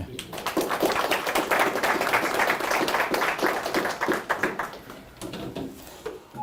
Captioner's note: applause